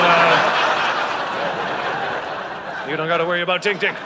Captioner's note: audience laughing